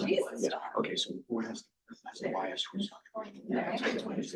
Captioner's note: quiet chatter